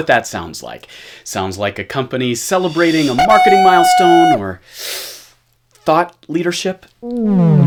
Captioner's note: shudder